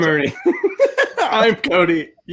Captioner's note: laughs